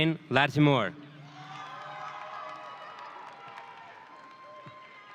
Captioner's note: audience cheering